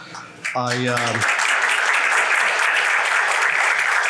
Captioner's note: applauding